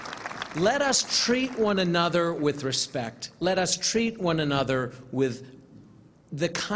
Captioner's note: applause